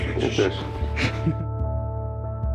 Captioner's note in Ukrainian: сміх